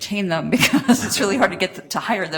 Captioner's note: laughing